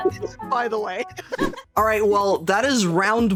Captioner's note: laughing